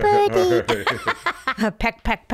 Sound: laughing

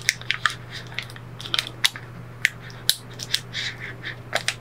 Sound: tape crackling

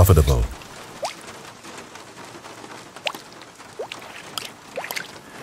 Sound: raindrops spattering

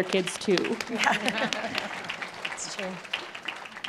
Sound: appplause

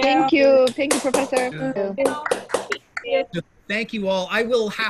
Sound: students applauding

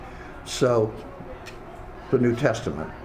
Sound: faintly speaking

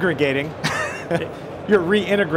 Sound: laughs

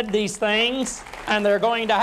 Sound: applause

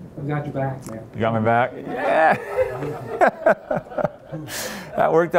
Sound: laughs

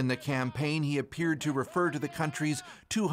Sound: speaking alternate language

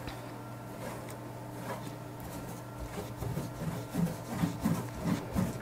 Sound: paintbrush scraping canvas

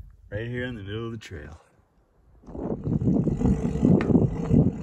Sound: wind noise, bike whirring

